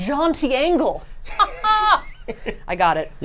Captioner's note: laughing